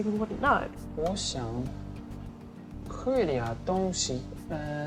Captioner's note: speaking Chinese